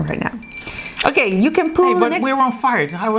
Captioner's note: bell dings